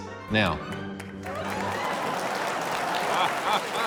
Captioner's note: cheering, applause, laughter